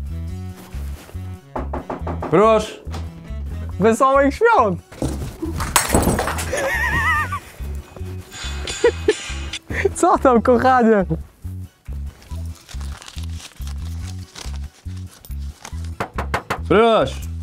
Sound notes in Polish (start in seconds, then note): 4.9 boom; 6.4 Śmiech psychopaty; 11.8 szelest